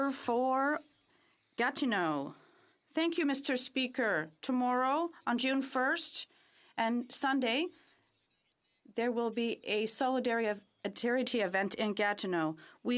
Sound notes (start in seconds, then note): 3.9 speaking French